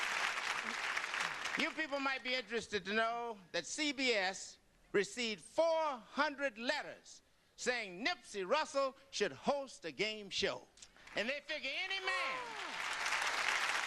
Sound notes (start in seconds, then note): 12.0 audience applause